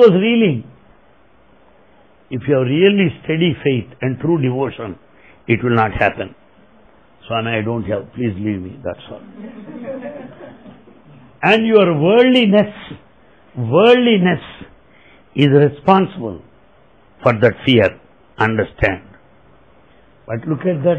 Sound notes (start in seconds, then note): 12.3 laughter